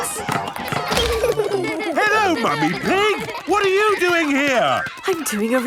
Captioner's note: laughter